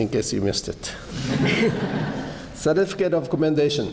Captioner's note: laughter